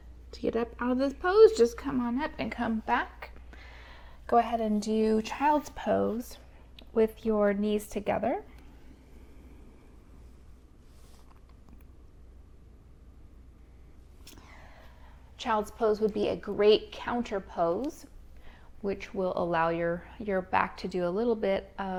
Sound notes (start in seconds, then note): 12.8 silence